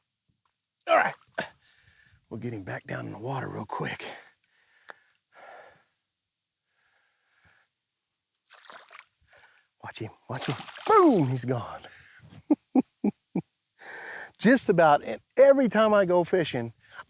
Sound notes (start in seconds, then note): 12.4 laughs